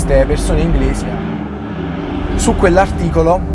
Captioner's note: 590 GT approaching